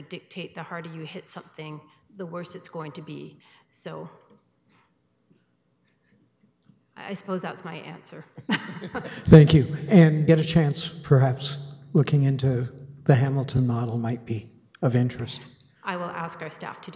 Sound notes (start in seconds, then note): 8.4 laughter